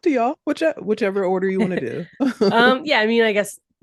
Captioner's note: chuckles